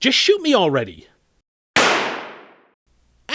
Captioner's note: gun shot